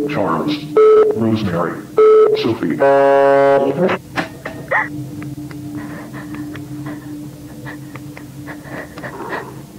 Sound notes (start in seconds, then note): 3.0 distorted buzzing; 4.8 Ashley gasps; 5.6 Ashley breathes shakily